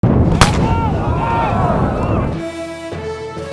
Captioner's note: fire flaring; men yelling; stately music